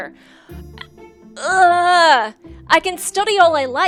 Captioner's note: groans